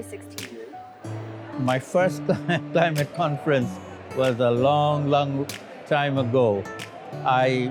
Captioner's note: laughs